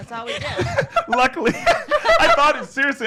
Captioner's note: laughs